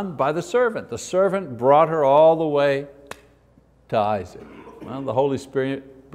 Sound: claps

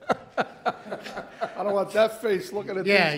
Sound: laughs

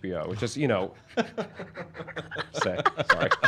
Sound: everyone laughs

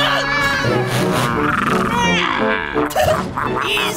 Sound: screaming; growling

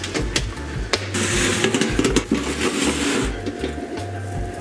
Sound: pan scraping

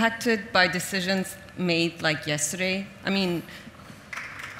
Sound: audience applauds

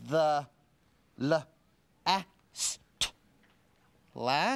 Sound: sounding out word

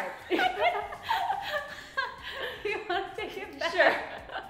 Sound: laughs

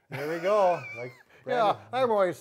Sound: laughing

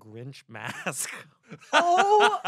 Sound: laughs

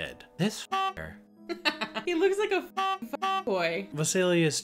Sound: laughs

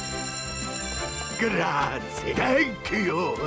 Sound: bell rings

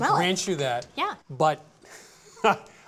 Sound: laughs

